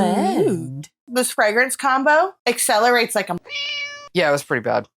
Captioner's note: meow